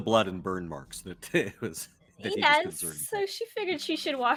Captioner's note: laughs